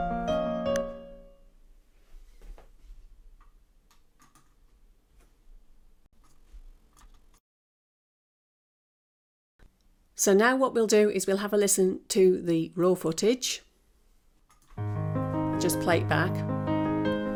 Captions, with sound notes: (music stops) So now what we'll do is we'll have a listen to the raw footage. Just play it back.